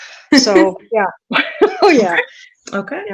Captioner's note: laughing